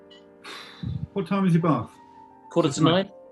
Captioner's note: exhales